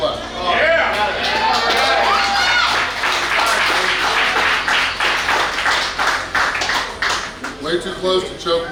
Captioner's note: cheering & Clapping